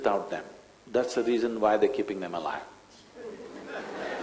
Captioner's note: laughter